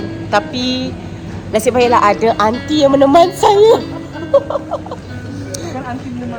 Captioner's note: laugh